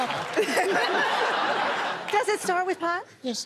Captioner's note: laughter